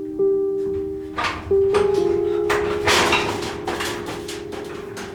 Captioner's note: gentle instrumental music; door opening